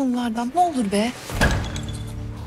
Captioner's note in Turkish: Kapı Açılıyor